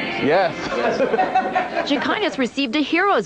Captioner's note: laughing